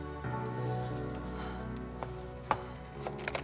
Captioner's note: moan; footstep